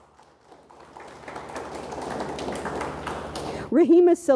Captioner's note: audience applauds